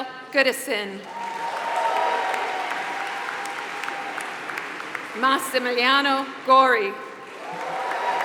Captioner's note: applause